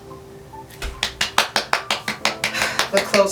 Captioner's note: clapping